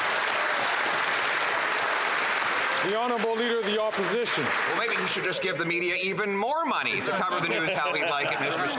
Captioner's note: some Applause